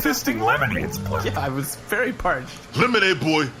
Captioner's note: laughing